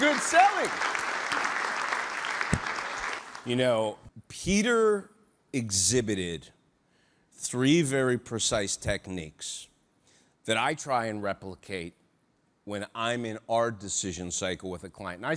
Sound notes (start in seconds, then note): 0.0 audience applauding